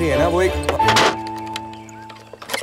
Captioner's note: Door closing